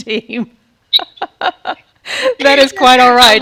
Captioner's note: laughing